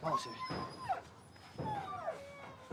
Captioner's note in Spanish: perros gimen